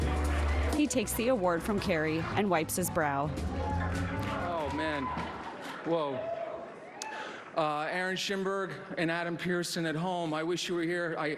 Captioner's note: applause